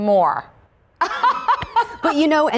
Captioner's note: laughter